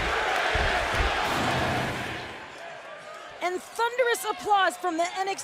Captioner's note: crowd cheering